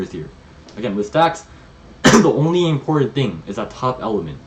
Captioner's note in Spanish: se aclara la garganta